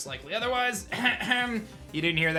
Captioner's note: coughs